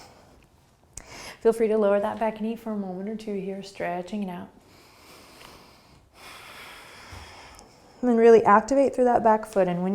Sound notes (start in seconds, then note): 4.6 breathing